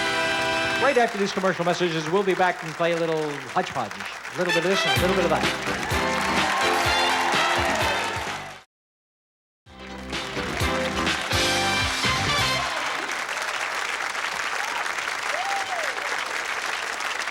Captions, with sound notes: Right after these commercial messages, we'll be back and play a little hodge-podge-- a little bit of this, and a little bit of that. -(theme music playing) -(cheers, applause) -(theme music playing) -(cheers, applause)